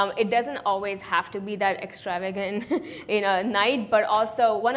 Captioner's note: chuckles